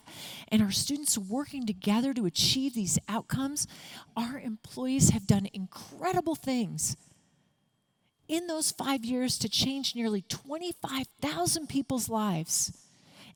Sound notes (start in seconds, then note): none